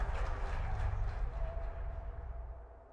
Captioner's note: crowd cheering